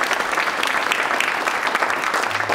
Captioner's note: applause